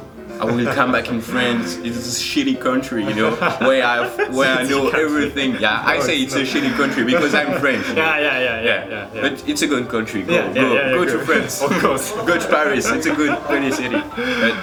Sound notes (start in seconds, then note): 3.3 laughs; 5.1 laughs